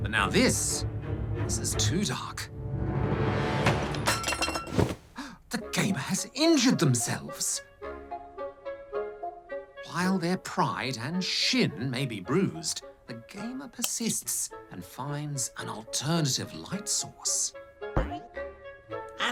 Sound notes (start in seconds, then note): 2.7 clatter!; 5.1 gasps